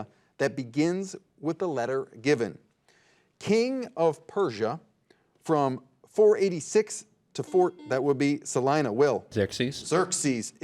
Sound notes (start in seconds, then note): 6.7 buzzer dings